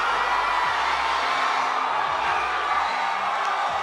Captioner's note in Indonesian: bersorak